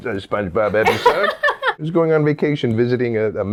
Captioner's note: laughing